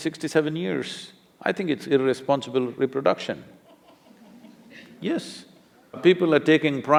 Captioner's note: laughter